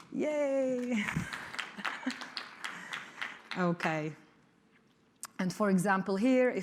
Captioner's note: applause